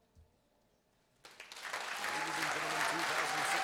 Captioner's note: applause